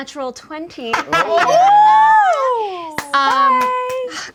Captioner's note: group cheers